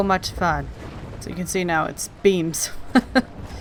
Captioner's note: laughs